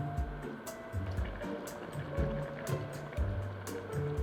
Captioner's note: simmering